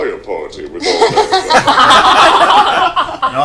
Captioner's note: all laugh